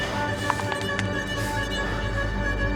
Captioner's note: neck bones cracking